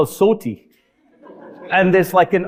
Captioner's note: audience laughing